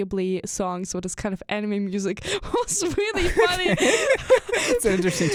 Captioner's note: both laugh